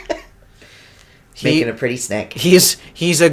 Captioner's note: laughter